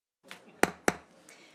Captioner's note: gavel hitting dais